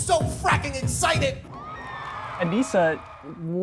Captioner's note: cheers and applause